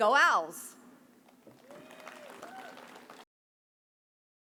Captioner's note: audience cheers